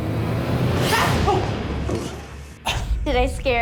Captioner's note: shouting